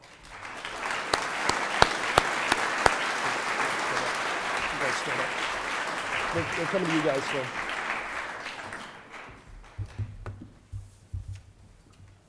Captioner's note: applause